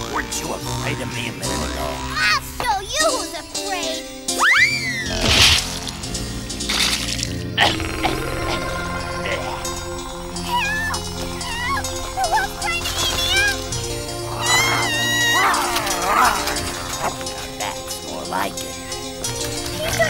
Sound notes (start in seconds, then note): 7.5 coughing; 14.2 screaming, growling